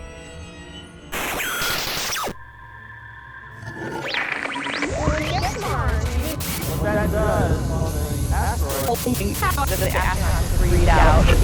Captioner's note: sound Effects